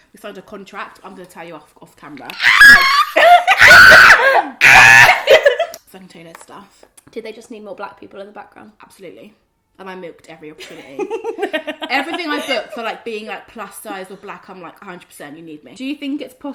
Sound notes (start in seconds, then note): 2.3 screams; 4.2 laughs